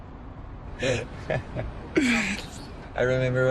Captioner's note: laughs